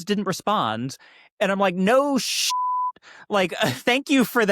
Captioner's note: beep